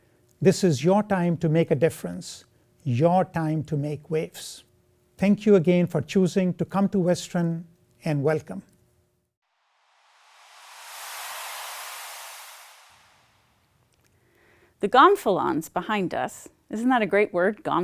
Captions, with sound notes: This is your time to make a difference, your time to make waves. Thank you again for choosing to come to Western. And welcome. [ whooshing sound ] The gonfalons behind us -- isn't that a great word?